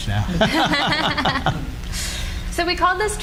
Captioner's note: laughing